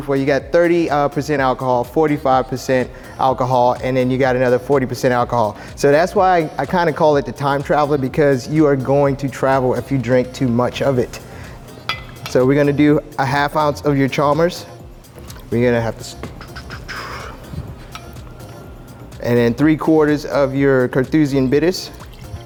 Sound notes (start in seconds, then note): 11.7 glass clinking; 15.1 pouring liquid; 16.0 exhales; 17.3 glass clinking; 18.6 liquid pouring; 21.8 liquid pouring